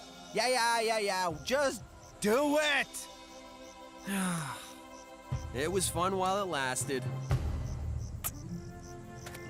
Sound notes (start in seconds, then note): 4.0 Duncan Sighs